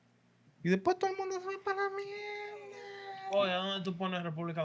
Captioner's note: speaking Spanish